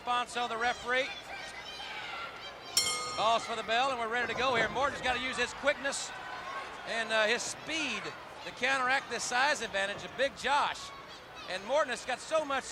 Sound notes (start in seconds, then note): 1.6 crowd chatter; 2.8 bell rings